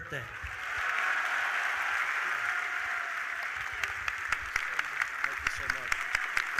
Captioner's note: audience applauding; audience cheering